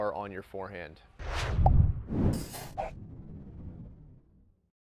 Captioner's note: whooshing